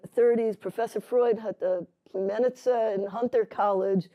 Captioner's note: non-english